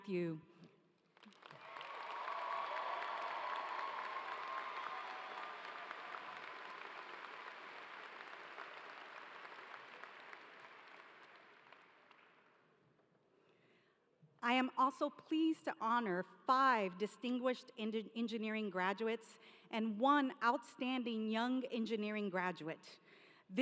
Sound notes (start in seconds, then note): 4.6 cheers and applause